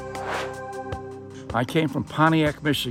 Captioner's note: air swooshes